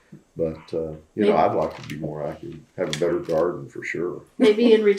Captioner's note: laughs